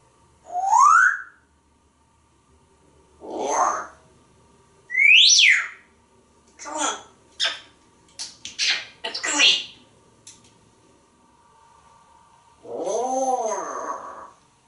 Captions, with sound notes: [more whistling] Roar! [whistling] Come on! [smooches] Let´s go eat! Roar!!!